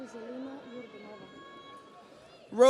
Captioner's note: audience cheers